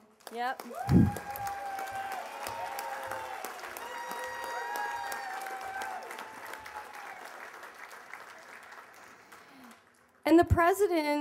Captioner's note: cheers and applause